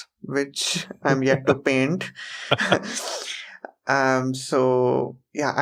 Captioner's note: laughs